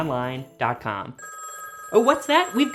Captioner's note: phone rings